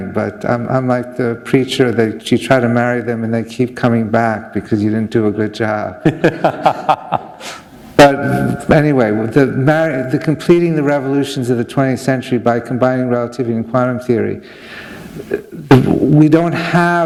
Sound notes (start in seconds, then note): 6.0 laughter